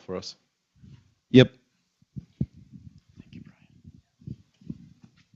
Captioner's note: whispers